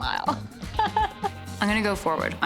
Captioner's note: chuckles